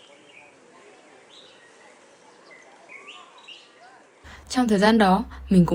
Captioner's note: bird sounds